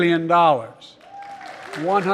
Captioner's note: applause